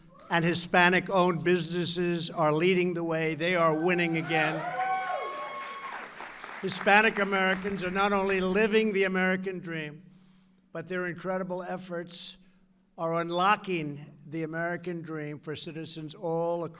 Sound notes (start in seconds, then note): 4.4 applause